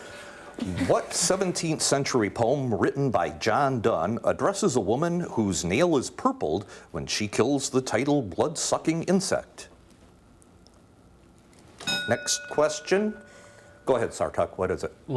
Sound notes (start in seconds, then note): 11.8 ding